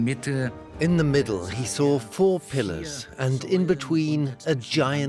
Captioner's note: in German; dubbed in English